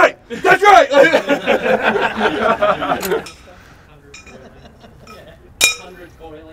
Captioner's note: guys laugh